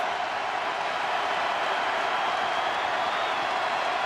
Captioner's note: crowd cheering